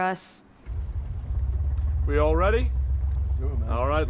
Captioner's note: motor rumbling